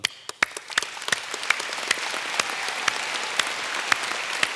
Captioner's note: applause